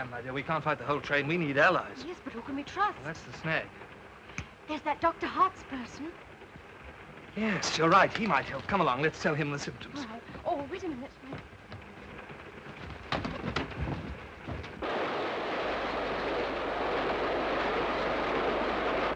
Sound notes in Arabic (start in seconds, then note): 4.2 أصابع تنقر; 12.9 رفرفة الأجنحة; 14.7 هدير القطار